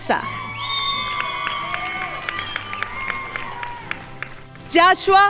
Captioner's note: crowd applauding